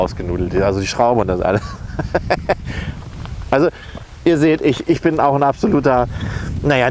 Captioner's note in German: lacht